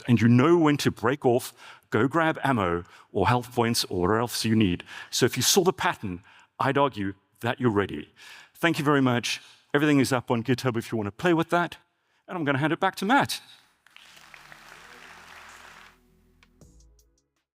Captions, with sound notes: and you know when to break off, go grab ammo or health points or whatever else you need. So if you saw the pattern, I'd argue that you're ready. Thank you very much. Everything is up on GitHub if you wanna play with that, and I'm gonna hand it back to Matt. (audience applauds) (upbeat music)